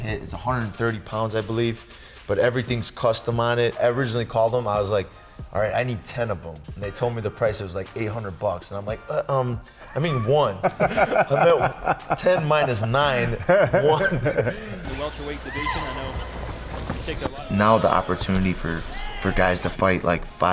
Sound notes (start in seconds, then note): 9.8 laughing; 14.8 announcer speaking; 14.8 audience chattering